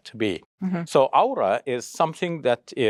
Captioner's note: speaks Arabic